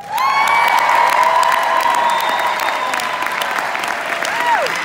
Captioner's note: audience cheering